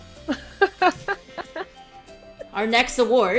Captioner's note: laughs